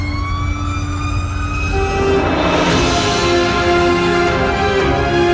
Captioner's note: sirens wailing; orchestra music